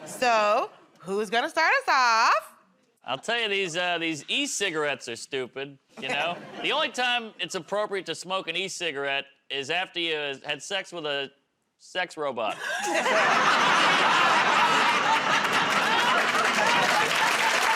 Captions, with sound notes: So who's going to start us off? -I'll tell you, these -- these e-cigarettes are stupid. You know? The only time it's appropriate to smoke an e-cigarette is after you've had sex with a sex robot. [ Laughter ]